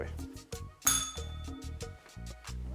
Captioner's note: bell rings